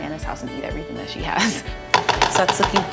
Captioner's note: chuckles